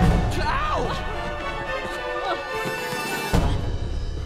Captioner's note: Anna grunts